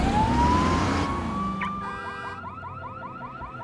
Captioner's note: car alarm beeping